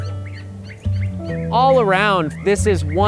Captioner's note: birds chirping